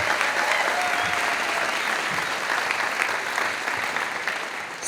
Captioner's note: audience applauding